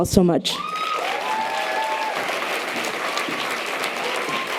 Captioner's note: audience applause